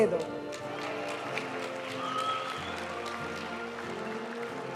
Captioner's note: audience cheering and applauding; graduation music